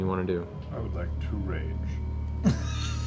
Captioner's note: quietly; laughter